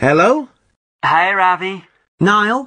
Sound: on phone

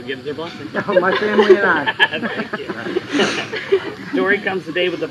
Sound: laughter

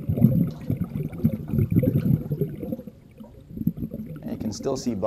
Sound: bubbling

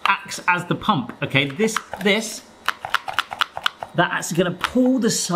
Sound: gadget rattling

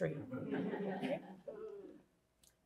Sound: laughter

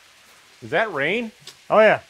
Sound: rain pattering

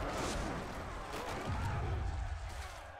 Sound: yelling

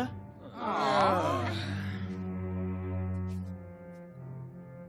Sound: groaning

